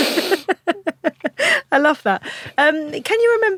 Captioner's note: laughs